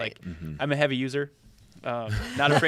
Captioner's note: laughter